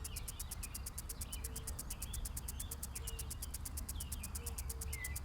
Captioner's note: birds chirping